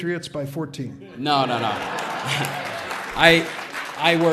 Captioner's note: audience laughs